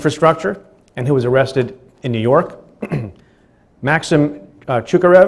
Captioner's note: clears throat